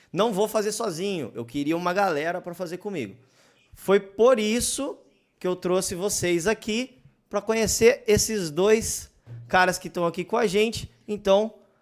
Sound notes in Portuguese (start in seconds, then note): none